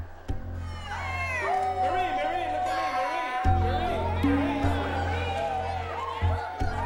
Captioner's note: overlapping chattering; children cheering